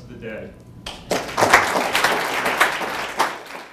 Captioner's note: applause